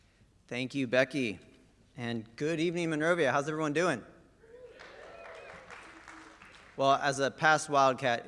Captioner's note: applause